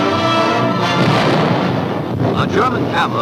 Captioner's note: guns firing